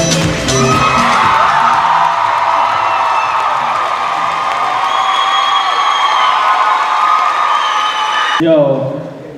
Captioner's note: cheers and applause